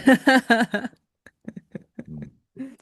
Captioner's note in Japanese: 笑い